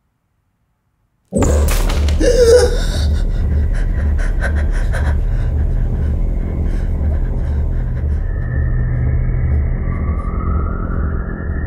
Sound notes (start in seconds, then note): 2.1 gasps and pants